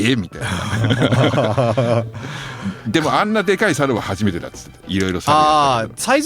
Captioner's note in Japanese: 笑い